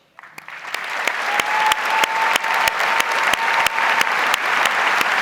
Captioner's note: audience applauds